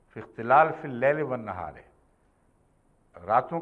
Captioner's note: Arabic